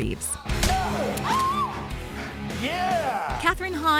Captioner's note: scream; thuds